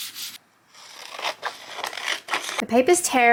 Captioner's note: scissors snip